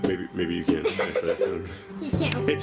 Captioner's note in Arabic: يضحك